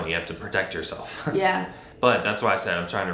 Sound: chuckles

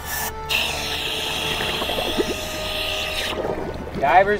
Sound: water bubbling

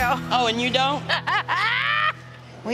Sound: laughs

